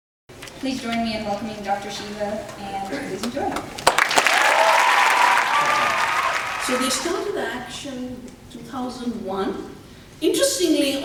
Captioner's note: enthusiastic applause, cheers